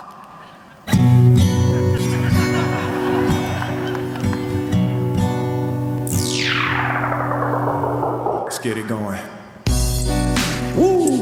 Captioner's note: Will Smith voice